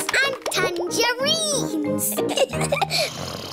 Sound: both giggling; snoring

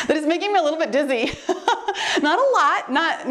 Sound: laughs

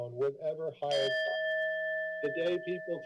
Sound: timer bell rings

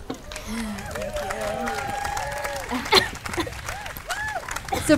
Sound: audience applauding

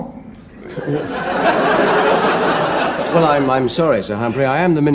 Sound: audience laughs

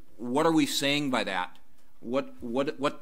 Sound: none

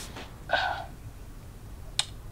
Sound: sigh

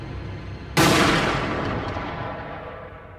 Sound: gunshot!

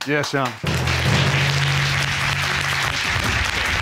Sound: audience applauding

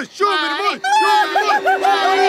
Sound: cheering

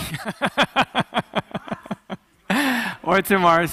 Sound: laughing

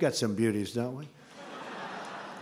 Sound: laughter

